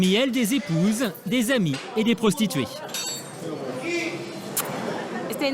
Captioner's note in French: bip